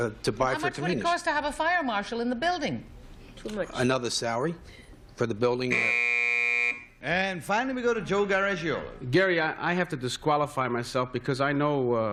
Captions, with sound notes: want to buy for convenience. - How much would it cost to have a fire marshal in the building? - Too much. - Another salary for the building-- [buzzer] - And finally, we go to Joe Garagiola. - Gary, I have to disqualify myself